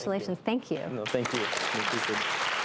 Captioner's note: crowd claps